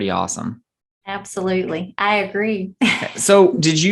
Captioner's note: laugh